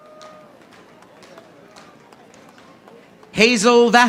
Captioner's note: audience applauding